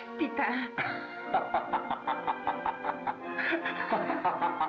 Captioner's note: laughing